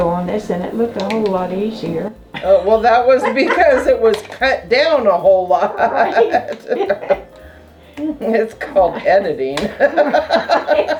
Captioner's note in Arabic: يضحك